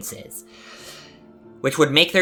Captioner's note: inhale